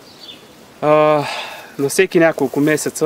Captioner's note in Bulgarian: Въздишка